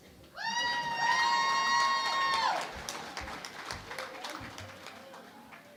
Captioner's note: cheering and Applause